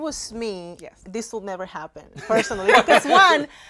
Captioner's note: laughing